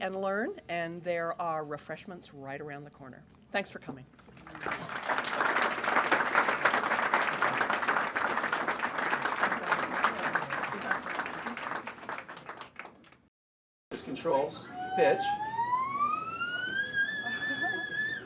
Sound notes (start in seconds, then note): 4.3 applause; 14.5 high pitch theremin sounds